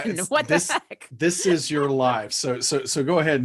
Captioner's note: chuckling